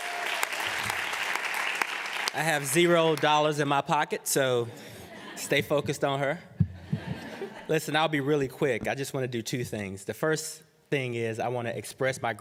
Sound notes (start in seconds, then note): 0.0 applause; 6.6 laughter